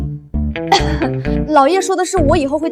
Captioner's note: cough cough